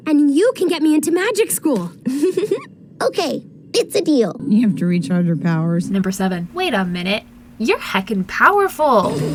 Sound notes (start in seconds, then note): 2.1 Willow giggles